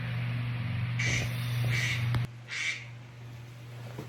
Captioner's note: duck quacking?